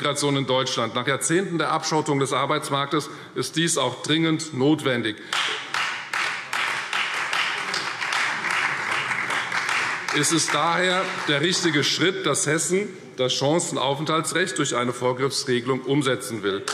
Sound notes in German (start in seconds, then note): 5.3 Beifall Freie Demokraten und BÜNDNIS 90/DIE GRÜNEN